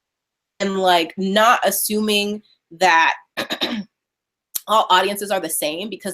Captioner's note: clears throat